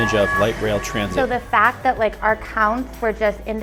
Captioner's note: whistle blowing, bell ringing